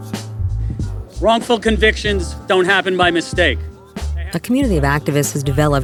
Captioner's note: voiceover